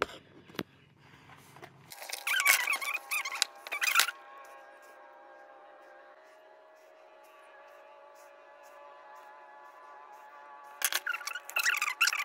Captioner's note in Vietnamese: Im lặng khó xử